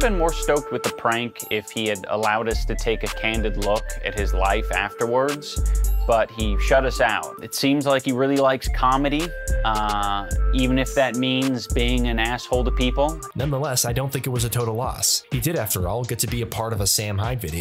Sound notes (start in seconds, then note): none